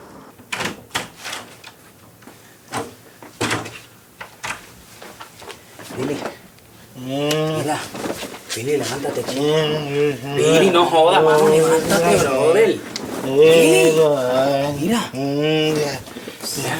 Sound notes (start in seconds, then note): 6.9 billy babbles; 9.7 billy babbles